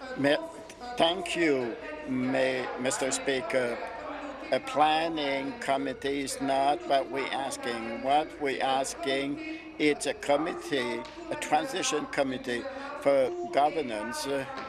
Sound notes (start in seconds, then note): 2.6 applause